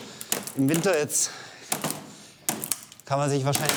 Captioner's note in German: Knarzen